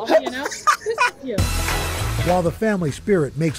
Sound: laughter

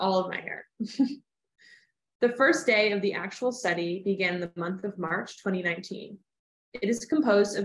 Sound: laughter

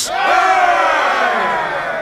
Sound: cheering

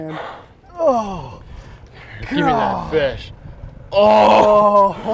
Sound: groaning

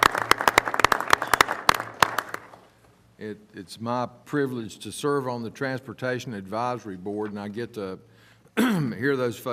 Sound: applause

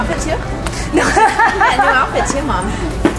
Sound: laughs

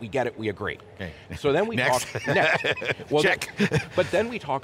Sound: laughs

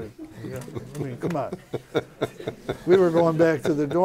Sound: laughter

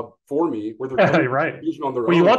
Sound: laughs

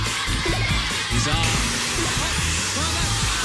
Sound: alarm sounds

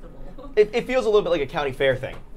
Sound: laughing

